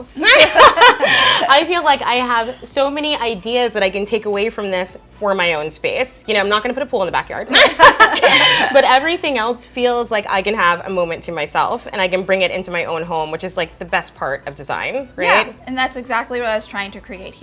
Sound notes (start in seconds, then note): 7.5 laughs loudly